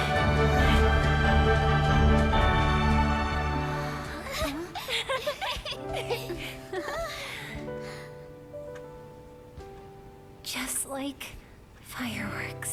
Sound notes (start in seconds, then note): 0.0 dramatic music; 4.0 children laughing